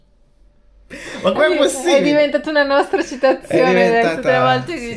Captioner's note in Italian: risate